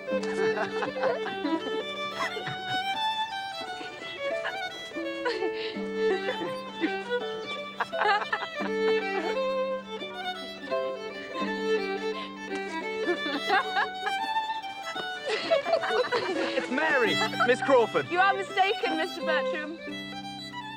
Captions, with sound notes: (laughter) (laughter continues) (laughing) It's Mary! Miss Crawford. You are mistaken, Mr. Bertram. Um...